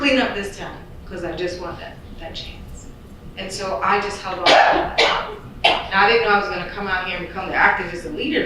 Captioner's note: loud coughing